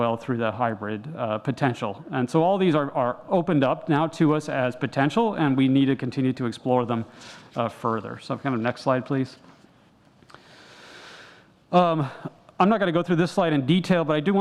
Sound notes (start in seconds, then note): 10.2 inhales